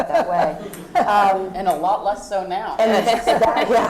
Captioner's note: laugh